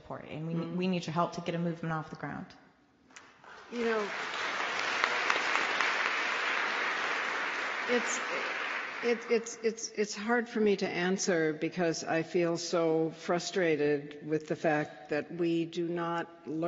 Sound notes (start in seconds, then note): 3.2 applause